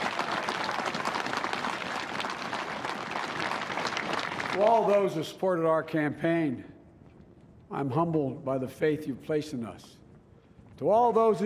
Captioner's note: applause